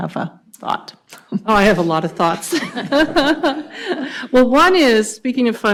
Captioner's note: laughs